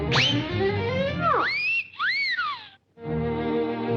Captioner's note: air squealing; Daffy whistling; romantic music